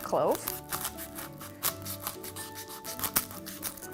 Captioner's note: crunching